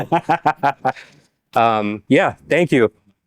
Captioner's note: laughing